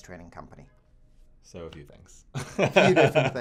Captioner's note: laughs